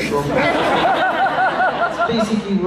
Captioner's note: laughs